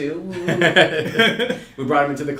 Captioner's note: all laugh